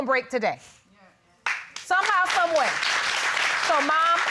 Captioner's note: applause